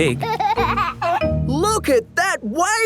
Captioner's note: giggling